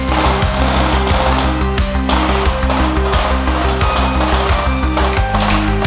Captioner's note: gunfire